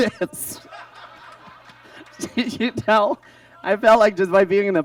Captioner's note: audience laughs